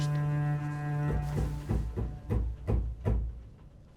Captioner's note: knocking on the door